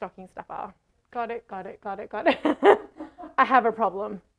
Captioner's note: laughs